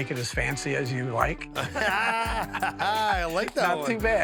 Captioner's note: both laugh